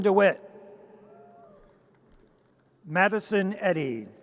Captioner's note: audience cheers